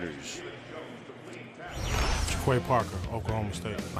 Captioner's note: pa announcement